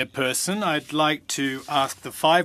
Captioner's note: speaking French